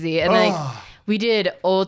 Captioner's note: groans